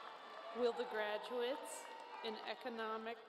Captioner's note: applause